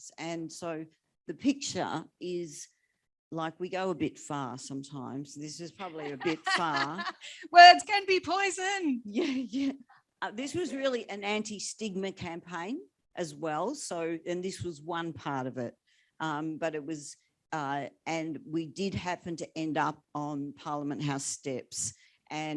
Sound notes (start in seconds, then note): 5.9 laughs